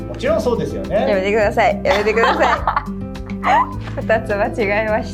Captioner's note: laughs